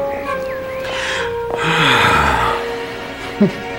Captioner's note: sighing